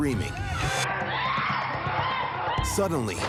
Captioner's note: neighbor screaming